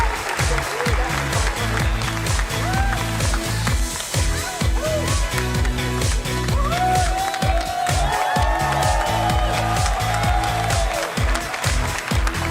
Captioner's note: applause